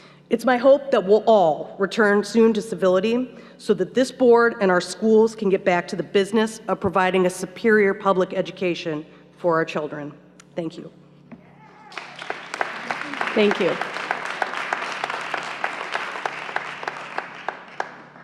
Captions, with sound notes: It's my hope that we'll all return soon to civility so that this board and our schools can get back to the business of providing a superior public education for our children. Thank you. (applause) Thank you (applause)